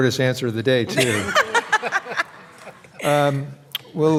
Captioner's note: laughter